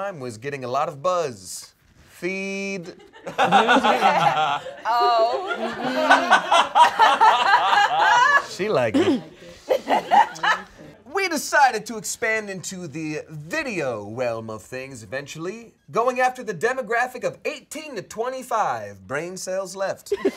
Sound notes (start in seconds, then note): 2.9 all laughing